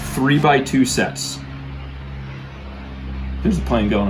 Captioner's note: plane engine roars